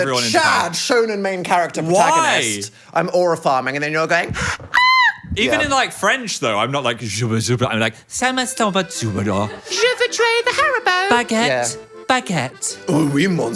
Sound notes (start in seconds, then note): 5.0 squeaks; 7.0 speaking French in a deep voice; 8.2 speaking French in a high-pitched voice